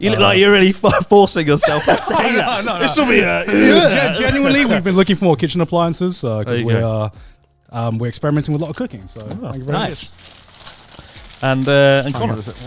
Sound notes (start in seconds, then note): 1.6 laughing; 10.8 wrapping paper rustles